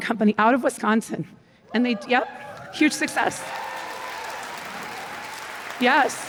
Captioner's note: cheers; applause